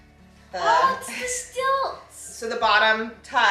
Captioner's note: shouts